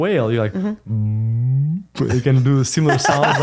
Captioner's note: whale sounds